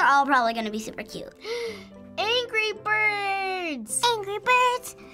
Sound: gasps

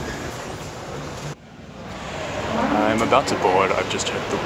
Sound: airport sounds; plane taking off

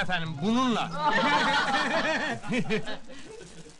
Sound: laughter

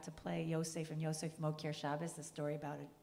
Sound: speaking in Hebrew

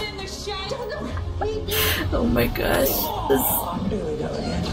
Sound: giggling

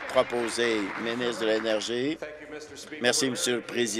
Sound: applause

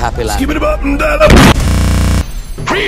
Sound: boom

